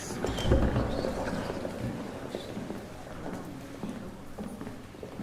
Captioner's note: departing footfall